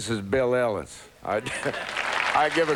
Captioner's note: applause